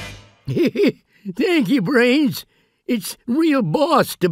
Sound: laughs

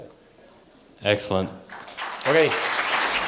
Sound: applause

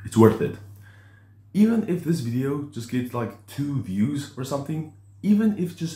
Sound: inhales

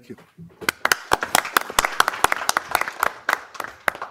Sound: applause

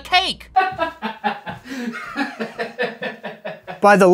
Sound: laughing off-screen

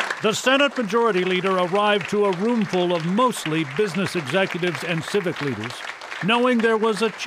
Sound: applause

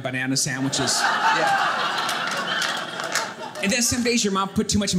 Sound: audience laughing

